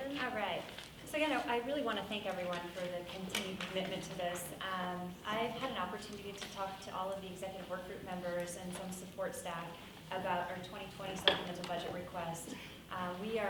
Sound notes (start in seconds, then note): none